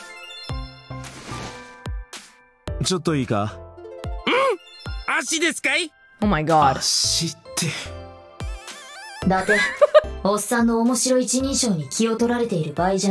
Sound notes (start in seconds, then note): 9.4 chuckles